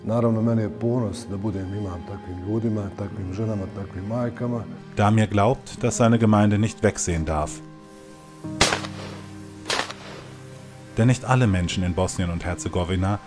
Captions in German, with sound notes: Damir glaubt, dass seine Gemeinde nicht wegsehen darf. (Schüsse) Denn nicht alle Menschen in Bosnien und Herzegowina